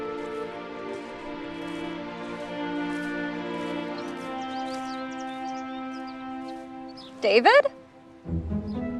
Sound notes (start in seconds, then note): 4.1 birds chirping